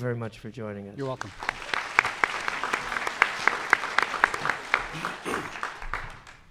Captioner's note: audience applauds